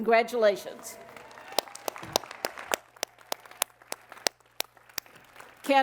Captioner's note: applause